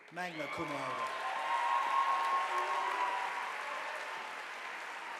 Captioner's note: audience applauding